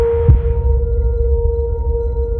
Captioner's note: deep low rumble